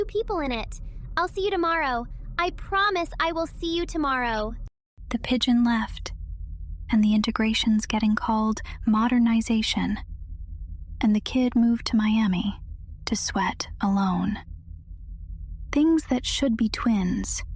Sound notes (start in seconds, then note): 5.3 whispers